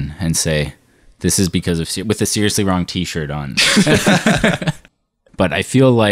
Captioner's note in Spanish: risas